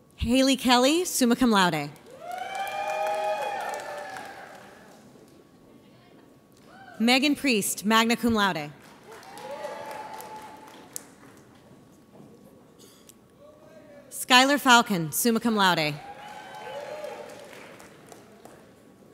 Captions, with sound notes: Hailey Kelly, summa cum laude. (audience cheers) Meghan Priest, magna cum laude. (audience applauds) Skyler Falcon, summa cum laude. (audience applauds)